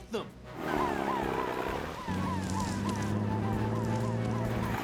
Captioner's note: siren Wailing